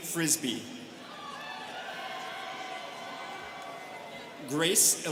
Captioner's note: students cheering